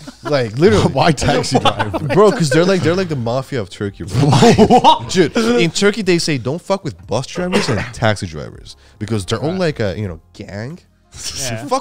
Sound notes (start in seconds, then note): 4.1 all laughing